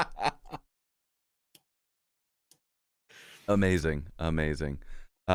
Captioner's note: laughter